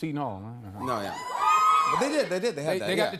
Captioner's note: cheers